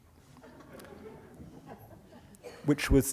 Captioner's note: laughter